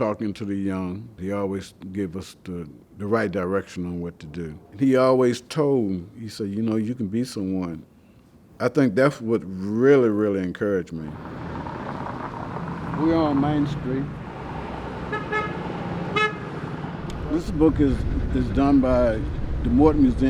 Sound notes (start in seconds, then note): 10.9 car engine revving; 13.7 car engines revving; 15.0 car hooting